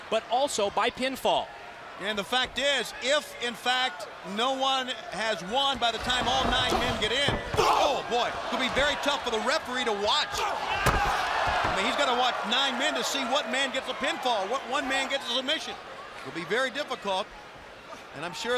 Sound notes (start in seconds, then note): 11.1 crowd cheering